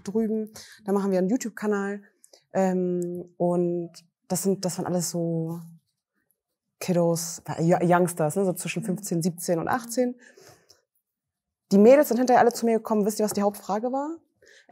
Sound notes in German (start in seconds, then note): none